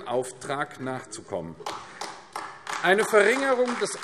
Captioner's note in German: Beifall AfD